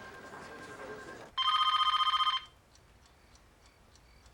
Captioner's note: phone ringing